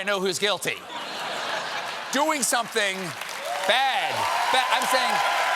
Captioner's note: laughter